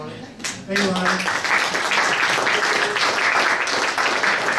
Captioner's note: audience applauds